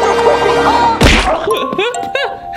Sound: squashing Sound

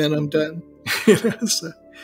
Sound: laughter

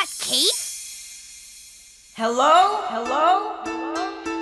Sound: voice echoing

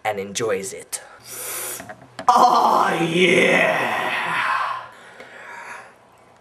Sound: wincing pleasurably

